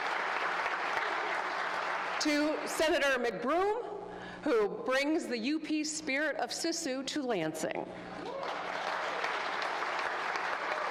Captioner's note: applause